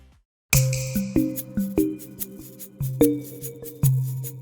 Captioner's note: tinkling